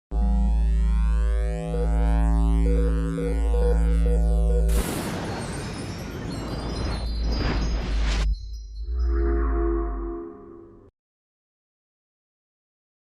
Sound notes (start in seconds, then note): 1.8 electronic beeping; 4.5 electronic booming; 5.3 chimes jingling; 6.1 electronic whirring; 8.0 atmospheric electronic music